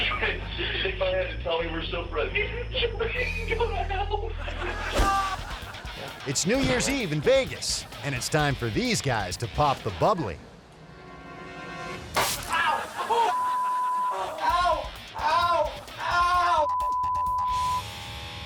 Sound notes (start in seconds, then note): 13.3 beep; 16.6 beep